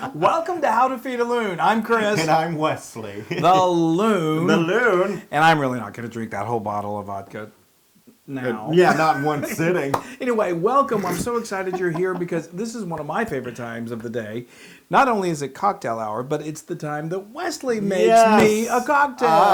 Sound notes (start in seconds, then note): 8.7 laugh